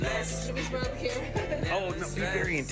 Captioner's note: laughs